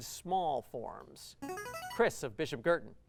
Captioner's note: buzzer